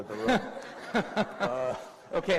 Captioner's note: laughter